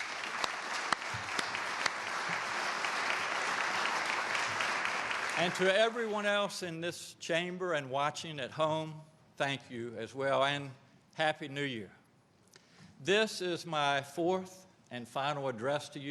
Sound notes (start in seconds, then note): 5.3 applause